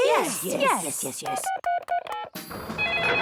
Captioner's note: phone beeping; phone ringing